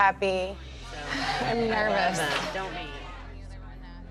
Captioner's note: sighs